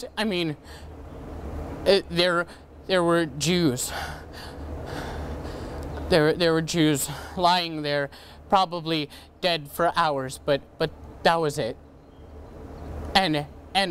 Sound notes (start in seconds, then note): none